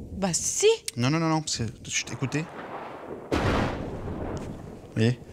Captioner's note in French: Coup de tonnerre